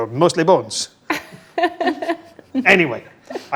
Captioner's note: group laughs